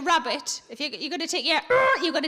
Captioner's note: imitates toy vibrating